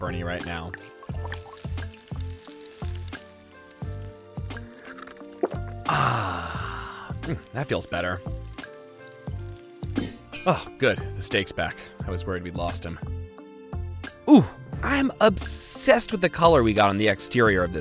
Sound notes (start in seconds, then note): 1.4 water bubbling; 4.6 gulp